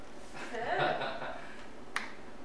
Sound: laughs

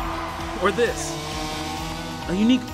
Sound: chainsaw sound

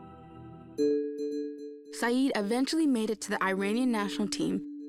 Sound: in English

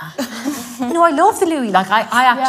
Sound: laughes

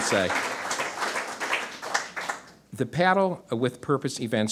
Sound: audience applause

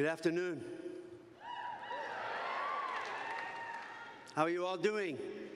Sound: cheers

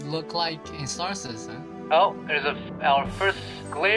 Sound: on the radio

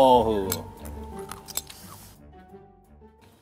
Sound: chewing

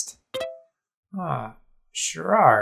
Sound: notification sound

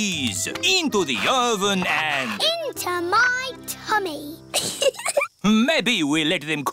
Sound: giggles

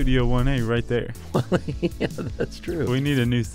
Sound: laughs

